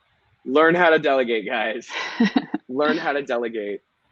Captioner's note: laughing